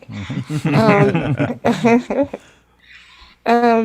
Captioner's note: all laugh